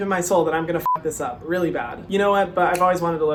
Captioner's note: beep